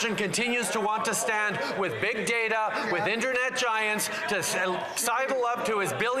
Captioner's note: some Applause